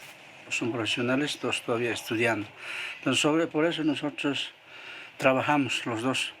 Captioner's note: speaking in foreign language